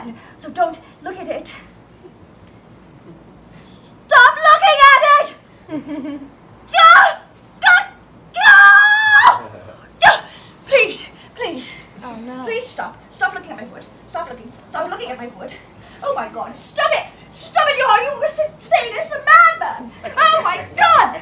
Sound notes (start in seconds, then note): 5.7 laughter; 10.0 yelps